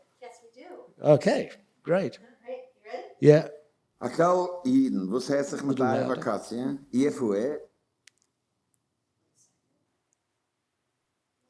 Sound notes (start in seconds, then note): 4.4 speaking yiddish